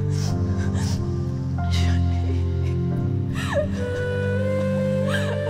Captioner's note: Crying